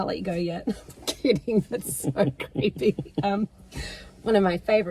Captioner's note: laughs